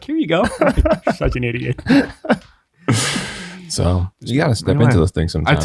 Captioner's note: chuckling